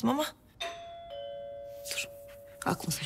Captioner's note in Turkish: Zil Çalıyor